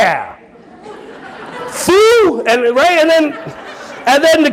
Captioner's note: audience laughing